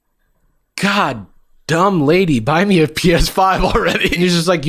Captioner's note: laughs